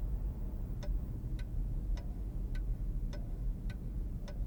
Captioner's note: clock ticking